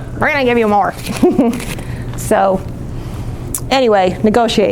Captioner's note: laughs